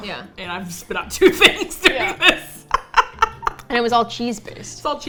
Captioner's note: both laugh